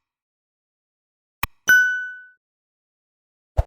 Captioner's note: bell dinging